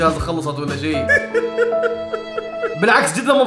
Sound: crying

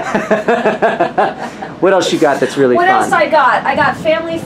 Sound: laughs

